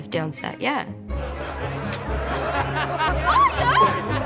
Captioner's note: laughing; laughs